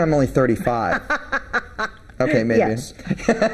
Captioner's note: laughing